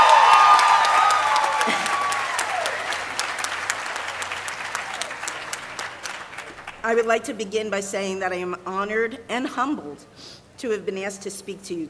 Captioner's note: cheering and applause